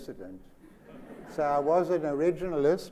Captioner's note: laughter